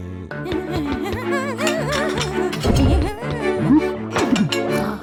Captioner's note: humming